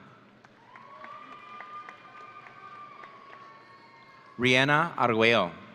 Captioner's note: audience cheering